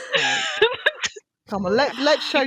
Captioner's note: laughter